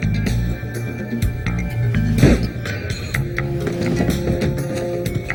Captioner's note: suspenseful ambient music; gunshot fires